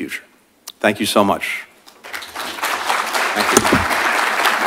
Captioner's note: applause